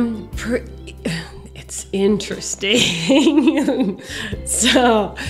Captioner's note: laughs